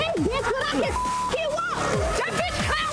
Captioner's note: beep